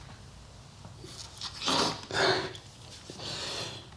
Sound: sniffs

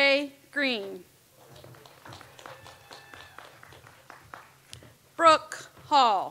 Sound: audience applauds

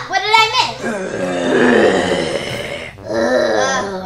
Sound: all groaning

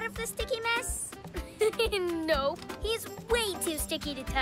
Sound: chuckles

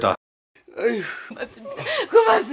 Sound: sigh

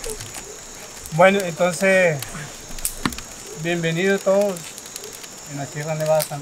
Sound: speaks in a foreign language

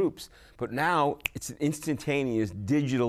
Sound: snaps his fingers

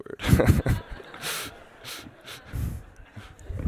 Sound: laughter

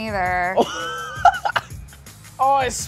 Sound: laughing

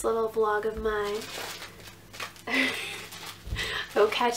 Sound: furious crinking

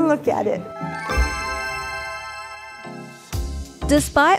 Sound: buzzer chiming

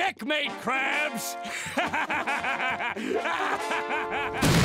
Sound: laughing

